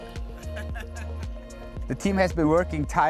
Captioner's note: man laughing